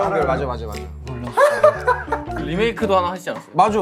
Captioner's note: burst out in laughter